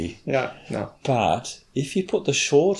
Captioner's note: chuckles